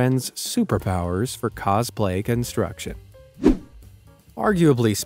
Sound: air whooshing

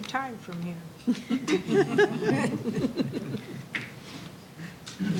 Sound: laughter

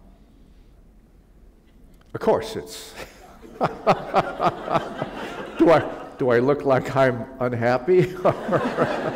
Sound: laughter

